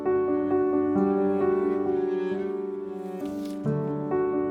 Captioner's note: sound of wooden box opening